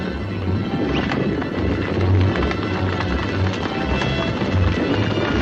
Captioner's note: ranch hand whistles